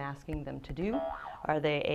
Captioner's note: boing